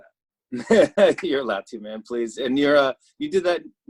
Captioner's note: laughs